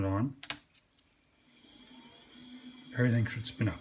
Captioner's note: click, whirrrrr